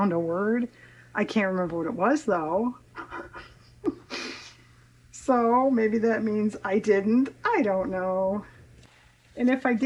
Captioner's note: laughs